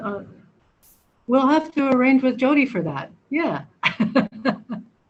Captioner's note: laughs